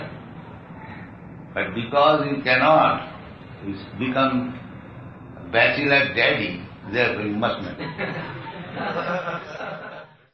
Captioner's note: Risas